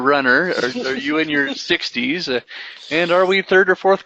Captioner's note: laughing